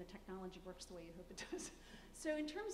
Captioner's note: laughs